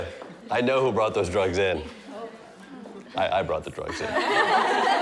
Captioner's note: laughter